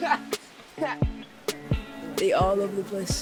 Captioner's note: laughing